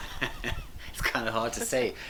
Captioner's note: laughing